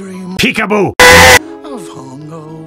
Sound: scream

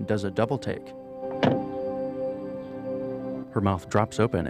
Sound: car door slams

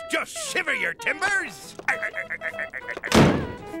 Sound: laughing

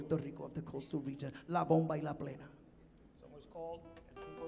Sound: speaking in Spanish

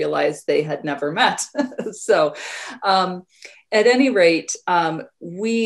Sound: chuckles

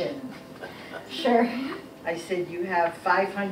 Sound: laughing

